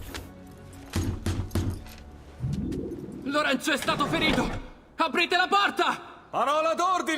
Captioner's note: knocks on a door